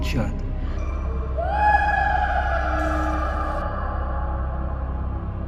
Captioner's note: mystical laughter